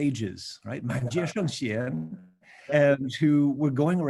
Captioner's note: speaking Mandarin